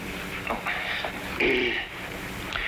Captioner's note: clearing throat